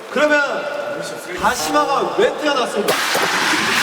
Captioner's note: rubbing